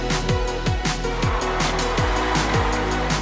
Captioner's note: crowd cheering